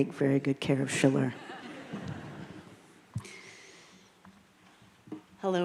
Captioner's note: crowd laughing